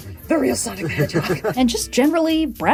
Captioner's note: laughter